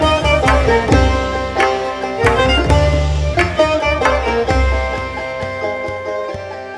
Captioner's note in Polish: Aplauz